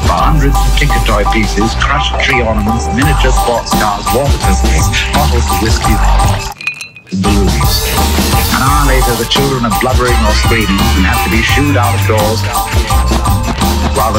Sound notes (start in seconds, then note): 5.8 whiskey burbles; 6.5 ice cubes rattle